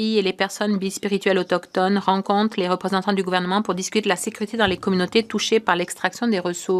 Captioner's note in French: voix de l'interprète